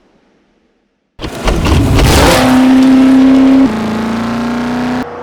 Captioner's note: engine revving